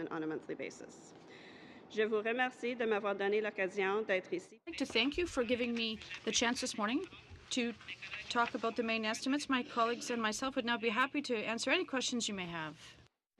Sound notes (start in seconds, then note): 7.6 speaking French